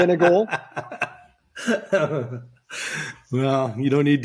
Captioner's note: laughs